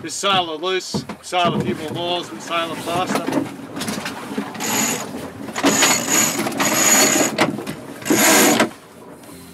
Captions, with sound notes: - If we sail her loose, sail a bit more miles, and sail her faster. (winch clattering) (line winding)